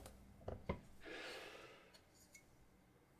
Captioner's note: exhaling